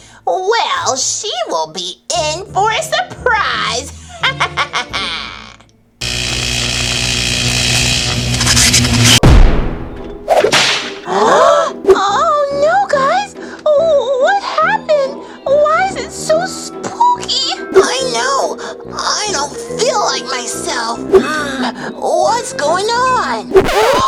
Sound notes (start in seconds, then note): 4.1 evil laugh; 6.2 electric zap; 11.1 gasps